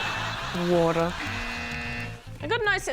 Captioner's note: buzz!